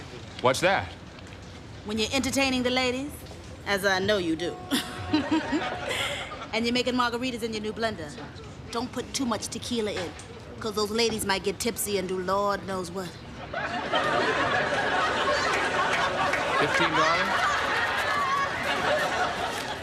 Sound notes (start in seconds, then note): 4.6 giggles